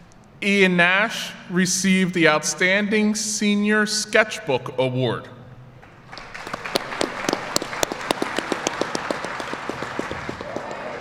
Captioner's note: applause